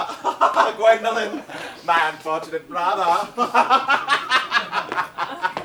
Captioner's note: laughs